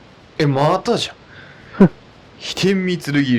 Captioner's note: laughs